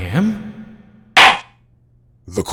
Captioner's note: gavel slams!